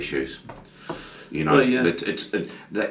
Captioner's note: sighs